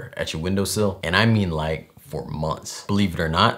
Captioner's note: none